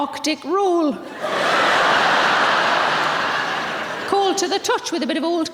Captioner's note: audience laughing